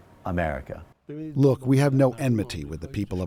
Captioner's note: through translator